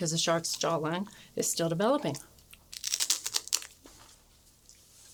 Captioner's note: crunching